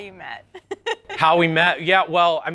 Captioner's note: interviewer laughs